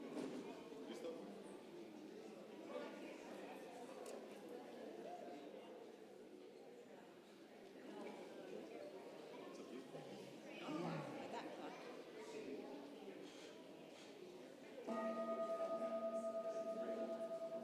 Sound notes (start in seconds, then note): 3.3 congregation chattering; 14.9 bell rings